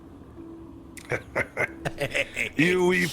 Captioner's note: snickers